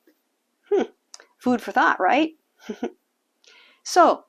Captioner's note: laughing